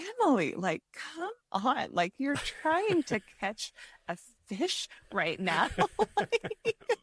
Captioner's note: laughs